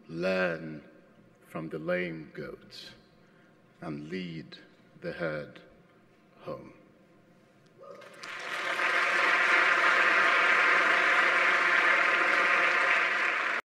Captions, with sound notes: Learn from the lame goat and lead the herd home." (applause)